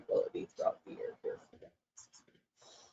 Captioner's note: audio drops out